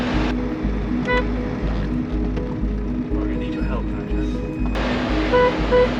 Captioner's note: van horn beeps